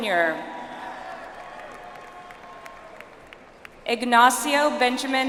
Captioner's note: audience applauds